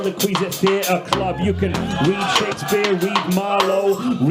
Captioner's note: audience cheers